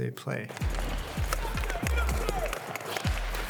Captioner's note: sticks slapping puck; dramatic music